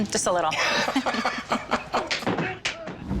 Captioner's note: both laugh